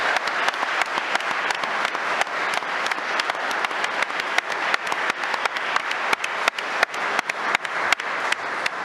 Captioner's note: applause